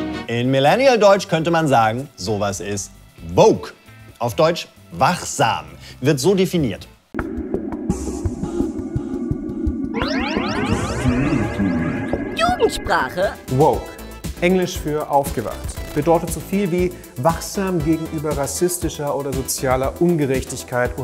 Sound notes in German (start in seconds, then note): 7.1 Sphärisches Rauschen; 9.7 Futuristisches Signal